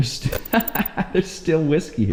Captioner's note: laughs